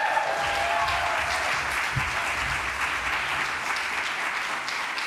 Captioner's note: applause